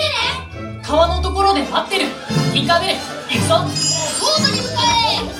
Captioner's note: Peter Pan speaking Japanese